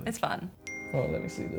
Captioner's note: phone pings